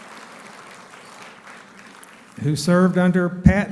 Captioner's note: applauding